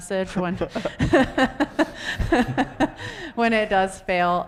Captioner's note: laughs